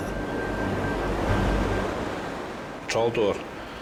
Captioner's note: gentle music; waves roaring